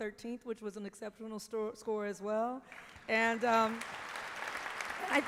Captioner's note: applause